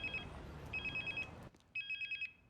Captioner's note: phone ringing